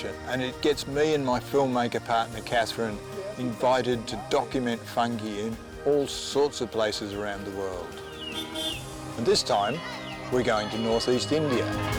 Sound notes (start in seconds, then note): 8.2 vehicle horn beeps